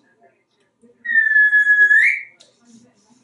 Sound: whistling

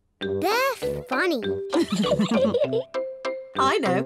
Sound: laughs

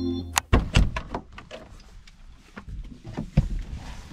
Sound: car door clunks

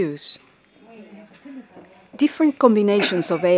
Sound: people chattering

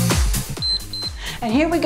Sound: timer beeps

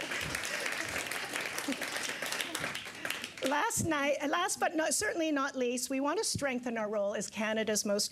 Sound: applause

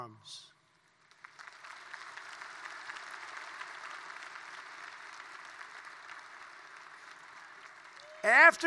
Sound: applause

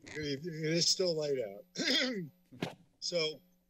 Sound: clears throat

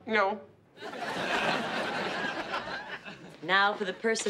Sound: audience laughs

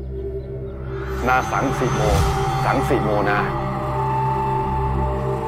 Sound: chanting

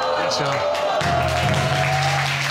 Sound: audience exclaiming

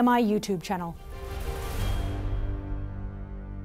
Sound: whooshing

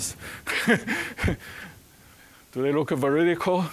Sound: chuckling

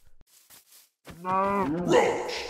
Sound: cow mooing

